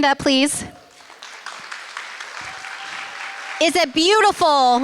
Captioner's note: applause